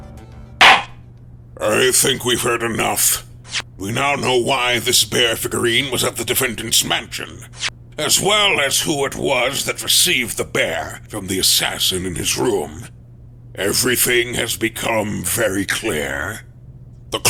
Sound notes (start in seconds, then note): 0.6 gavel slams!